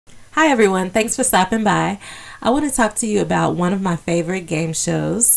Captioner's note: woman Speaking